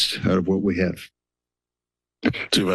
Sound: silence

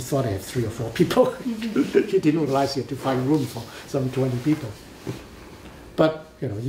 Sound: laughs

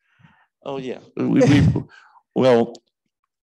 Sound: both laughing

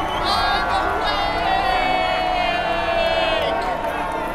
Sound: chanting; cheering

